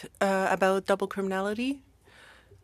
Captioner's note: speaking french